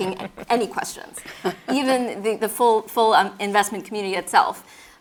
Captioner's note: laugh